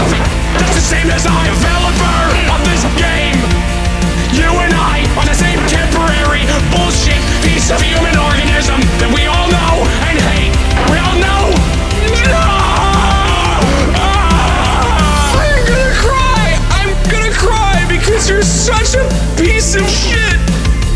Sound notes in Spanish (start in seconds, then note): 12.6 se transforma en gemidos; 13.6 Gimiendo en agonía